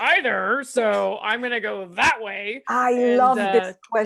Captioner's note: clicks